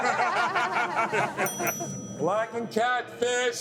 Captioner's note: kitchen bell dings